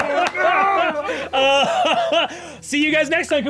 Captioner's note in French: exclamations; rires